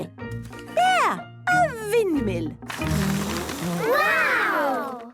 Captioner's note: blows